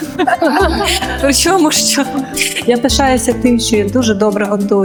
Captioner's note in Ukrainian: сміх